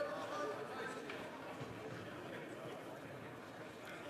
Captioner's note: speaking French